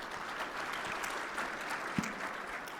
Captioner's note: audience applause